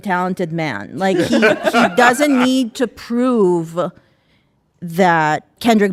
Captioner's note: audience laughing